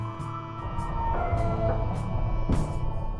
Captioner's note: squealing of mechanisms